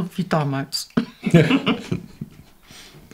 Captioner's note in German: beide lachen